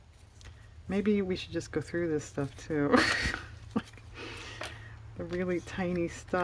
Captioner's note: laughs